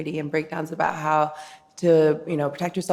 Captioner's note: none